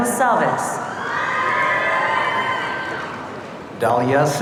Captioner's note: audience cheering